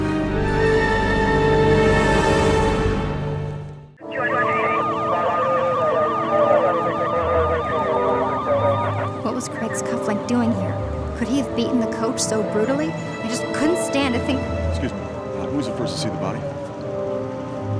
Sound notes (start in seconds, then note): 0.2 dramatic music soars; 4.0 radio chattering; 4.2 sirens wailing